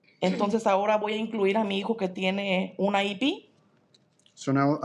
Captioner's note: speaking in Spanish